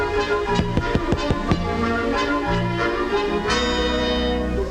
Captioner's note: peas popping